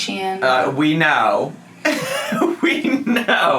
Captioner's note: man chuckling